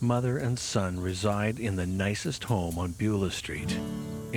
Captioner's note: none